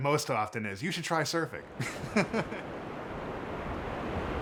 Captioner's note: laughs